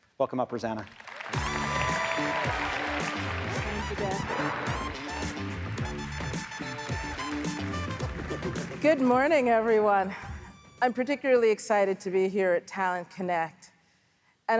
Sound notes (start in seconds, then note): 1.9 audience applauds; 3.2 pop Music